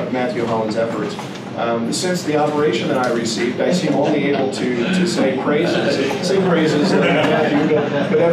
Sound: laughter

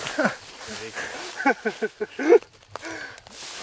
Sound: laughing

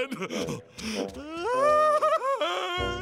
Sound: laughing

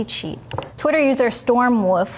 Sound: mouse clicking

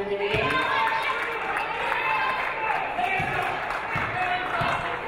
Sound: audience cheering

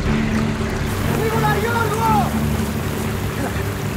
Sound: speaking in Greek

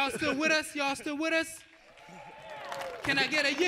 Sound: audience applauding

